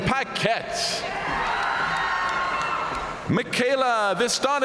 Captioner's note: audience cheering and applauding